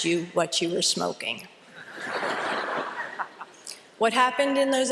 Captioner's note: laughter